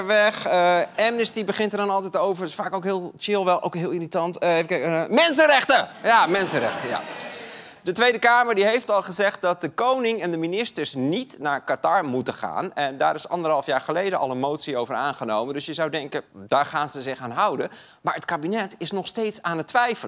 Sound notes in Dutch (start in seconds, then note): 6.0 gelach